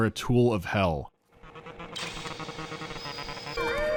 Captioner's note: disrupted, fitful buzzing; blaring of a siren, gunfire, overlaying whistling and beeping of drones